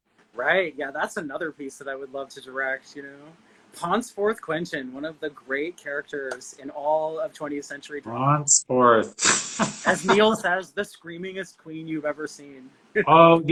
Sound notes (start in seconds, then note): 9.1 laughing